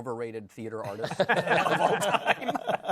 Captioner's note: laughter